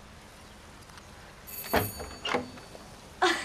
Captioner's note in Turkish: Kapı zili sesi; Kapı açılma sesi